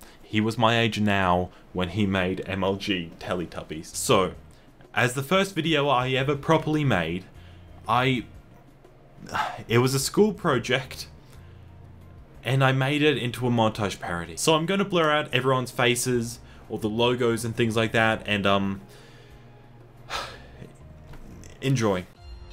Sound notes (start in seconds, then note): 9.3 sigh